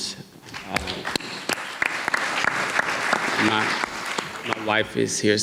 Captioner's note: audience clapping